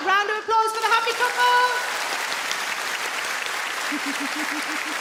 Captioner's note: audience clap